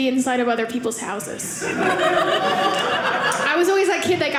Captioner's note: audience laughing